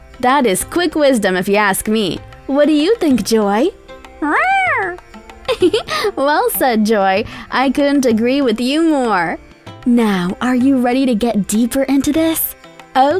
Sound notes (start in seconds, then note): 4.2 meowing; 5.4 giggles